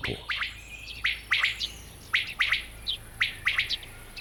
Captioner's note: quail calls